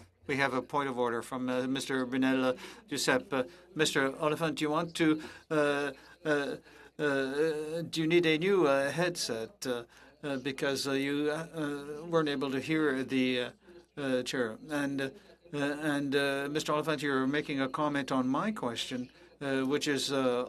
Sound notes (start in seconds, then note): 4.8 speaking French